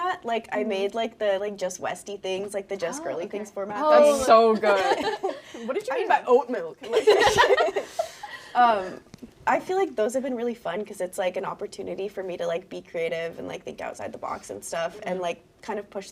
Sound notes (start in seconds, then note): 6.9 laughing; 6.9 all laughing